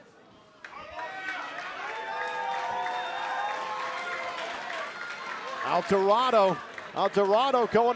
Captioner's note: cheers and applause